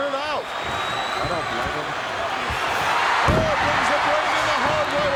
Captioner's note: audience cheering